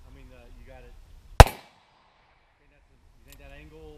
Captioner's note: voiceover; gun shot